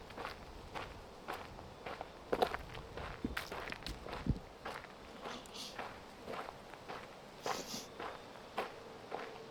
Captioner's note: wind